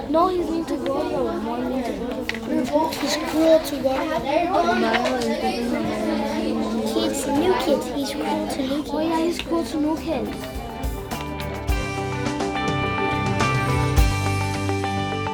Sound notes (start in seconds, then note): 5.6 reads mumbling; 10.7 theme music